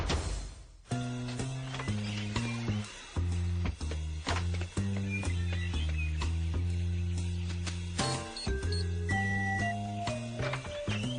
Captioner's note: door clicks, birds singing, beeping